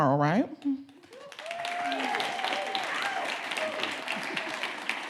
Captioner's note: audience clapping